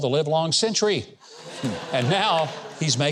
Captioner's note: audience laughs